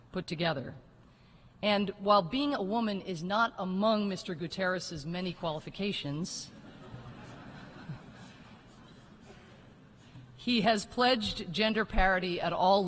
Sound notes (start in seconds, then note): 6.5 laughter